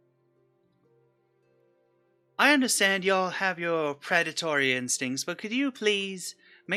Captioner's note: none